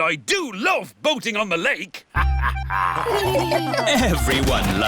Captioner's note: all laugh; chuckles